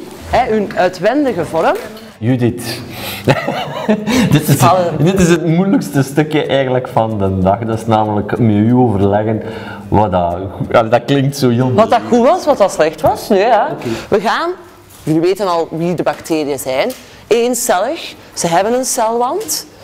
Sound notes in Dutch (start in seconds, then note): 3.2 lacht